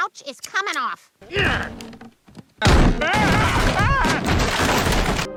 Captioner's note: Peter grunts